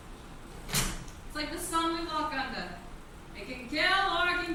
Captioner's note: door shuts